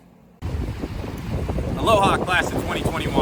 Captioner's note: waves crushing